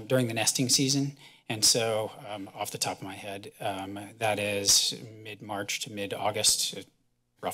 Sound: none

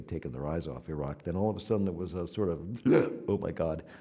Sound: gasping

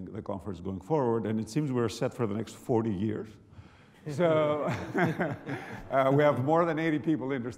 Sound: laughs

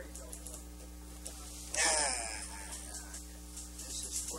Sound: amused sigh

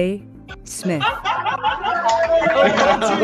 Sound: laughter; cheering

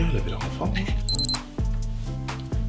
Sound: thermometer beeps

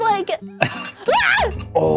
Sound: alarm

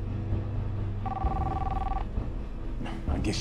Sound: cellphone ringing

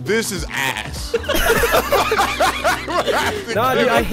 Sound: group laughing

